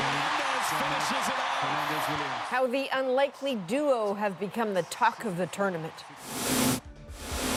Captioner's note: cheers and Applause